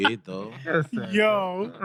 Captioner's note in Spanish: Hablando en idioma extranjero